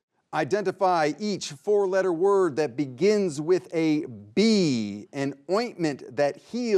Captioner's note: none